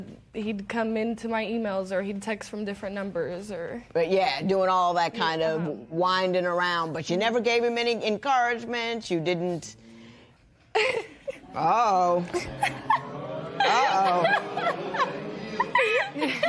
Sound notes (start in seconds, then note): 12.3 laughs; 12.4 spectators groan